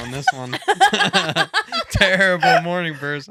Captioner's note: laughing